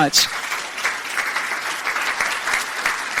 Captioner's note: crowd applauding